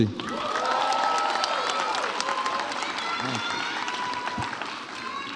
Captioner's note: audience applauds and cheers